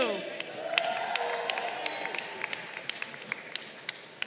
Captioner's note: crowd cheering